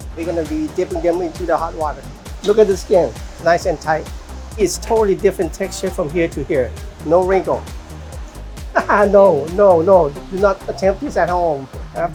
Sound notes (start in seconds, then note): 8.7 laughing